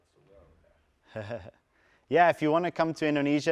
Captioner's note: laugh